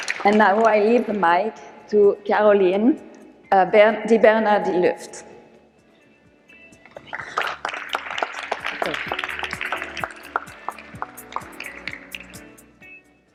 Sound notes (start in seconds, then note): 6.4 upbeat music; 7.0 audience applause